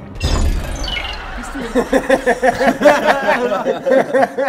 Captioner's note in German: Unheilvoller Ton; Lachen